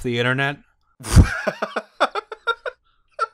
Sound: nervous laughter

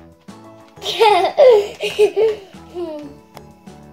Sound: laugh

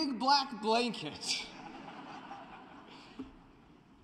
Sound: laughter

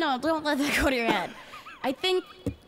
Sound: laughs

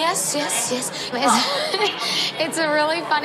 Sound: laughs

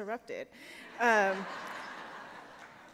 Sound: laughter

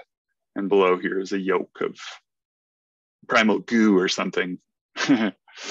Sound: laughs

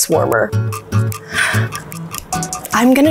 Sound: clock ticking

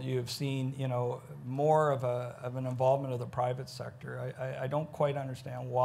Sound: none

